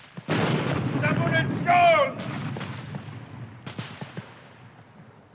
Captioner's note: shouting foreign language